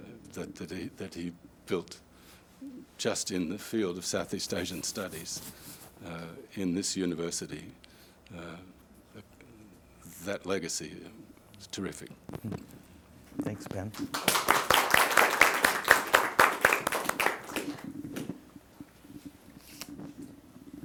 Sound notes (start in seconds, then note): 13.9 audience applauding